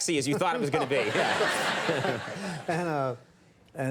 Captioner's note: audience laughing